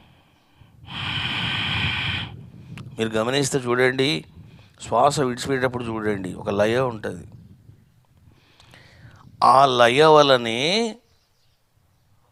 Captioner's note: slow breathing